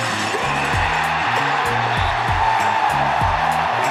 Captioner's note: cheering